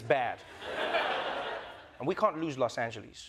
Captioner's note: laughter